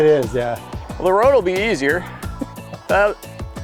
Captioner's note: chuckles